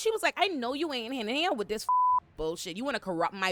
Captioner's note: beep